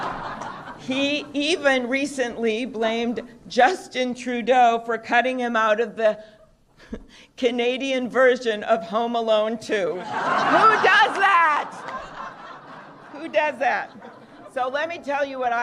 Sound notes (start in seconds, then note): 2.3 laughter